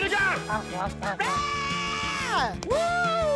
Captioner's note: quacks; screams